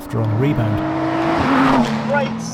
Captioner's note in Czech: řvoucí motor auta